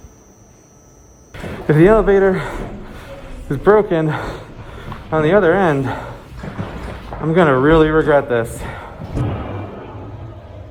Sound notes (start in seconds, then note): 1.4 breathing heavily; 9.1 footsteps on metal